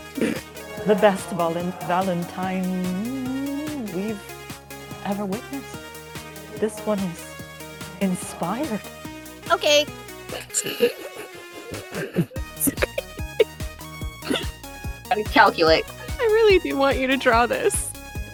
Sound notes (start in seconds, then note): 10.3 snickering